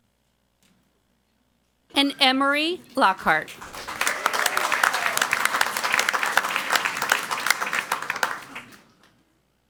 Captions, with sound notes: And Emery Lockhart. (crowd clapping and cheering)